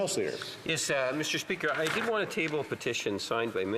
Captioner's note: speaking French